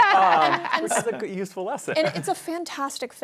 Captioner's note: laughter